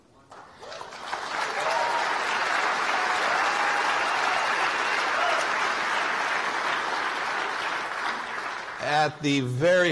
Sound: applause

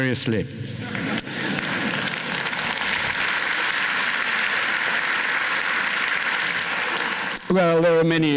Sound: laughter, applause

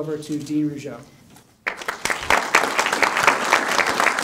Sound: applause

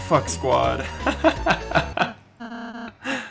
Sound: laugh

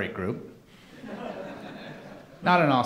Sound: laughing

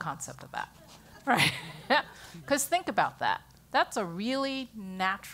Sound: laugh

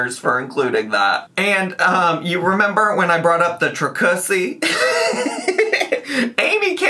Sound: laughs

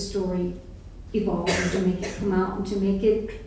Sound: coughing

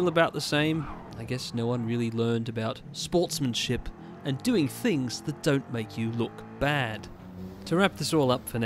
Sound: RP accent

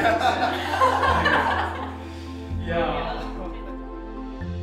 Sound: laughing

